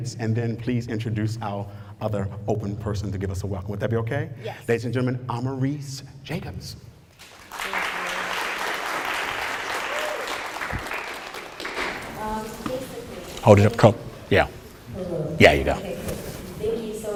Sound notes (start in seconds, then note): 7.1 applause